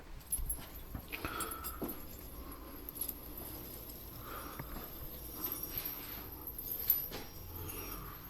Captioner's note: sound of a dragging chain